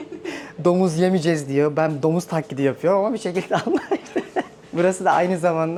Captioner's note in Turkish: kahkaha